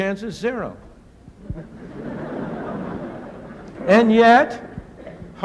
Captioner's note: laughter